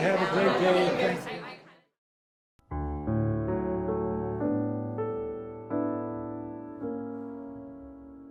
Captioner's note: crowd noise